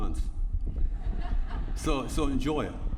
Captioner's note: laughter